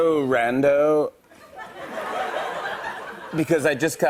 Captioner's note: laughter